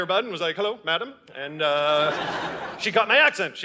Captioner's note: audience laughing